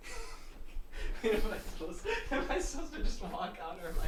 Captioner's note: chuckling